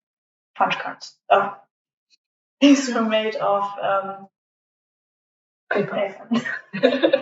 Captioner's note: laughter